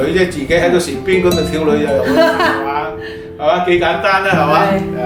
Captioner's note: laughing